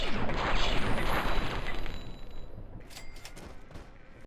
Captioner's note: weapon firing